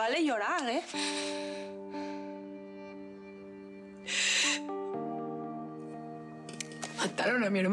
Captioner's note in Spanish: sollozos